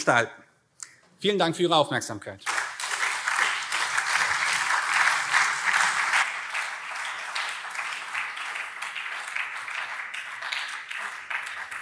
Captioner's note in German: Beifall CDU, SPD und BÜNDNIS 90/DIE GRÜNEN